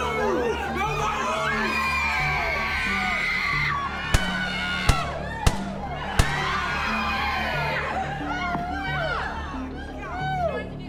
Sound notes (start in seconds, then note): 0.2 people screaming and shouting; 4.7 people screaming; 5.3 gunshots popping